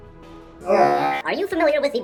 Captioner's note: robot voice effect